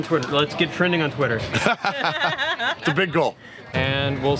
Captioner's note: laughs